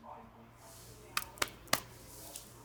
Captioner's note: sound of him patting her thigh, white noise